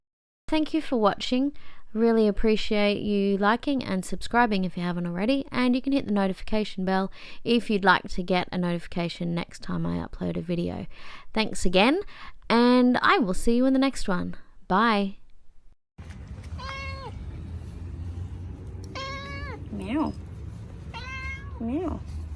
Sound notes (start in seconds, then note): 16.5 cat meows